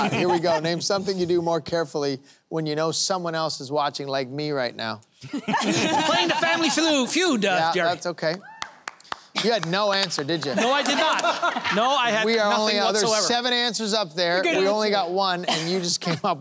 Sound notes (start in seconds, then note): 5.2 laughter